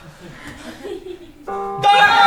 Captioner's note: bong!